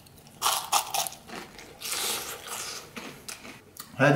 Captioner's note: Crunchy sounds